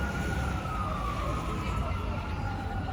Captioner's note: sirens